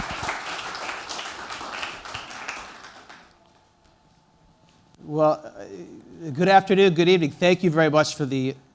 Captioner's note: applause